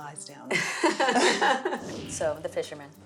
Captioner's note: laughs